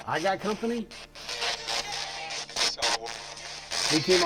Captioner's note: spirit box voice